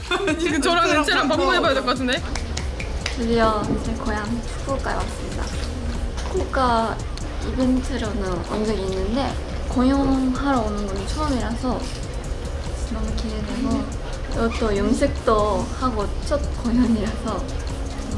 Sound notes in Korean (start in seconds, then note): 2.2 짝짝짝